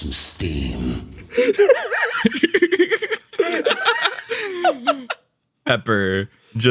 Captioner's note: laughs